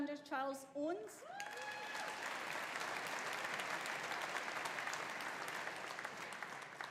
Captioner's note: audience cheering; audience applauding